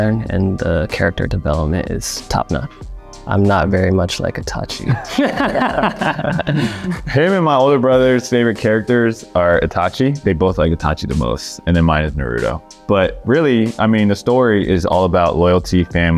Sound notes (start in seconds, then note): 4.8 Jeremy and Joe laughing